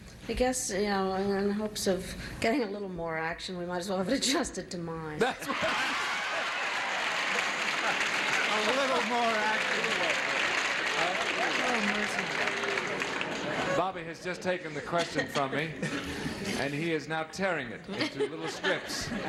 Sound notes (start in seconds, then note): 5.4 audience cheers